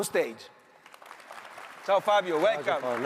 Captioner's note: audience applauds